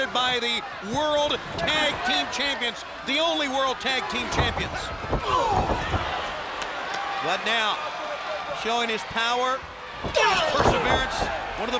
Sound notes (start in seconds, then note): 5.2 wrestler grunting